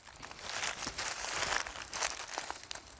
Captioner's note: rustling